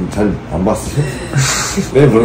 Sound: laughing

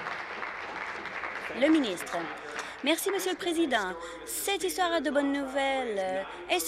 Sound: applause

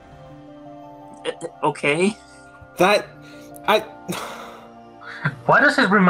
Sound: stutters; sigh

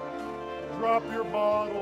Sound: audience laughs

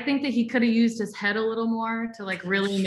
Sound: guests laughing

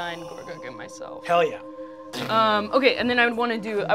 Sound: mystical chiming

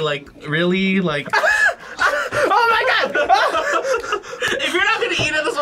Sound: laughs

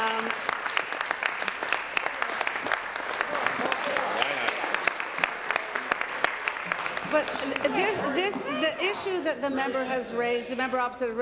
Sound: applause

